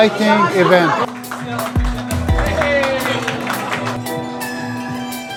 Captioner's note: crowd clapping